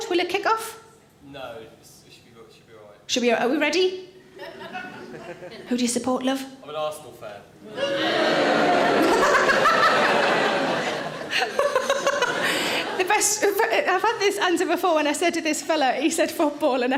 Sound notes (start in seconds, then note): 7.6 audience boos; 9.2 Sarah laughs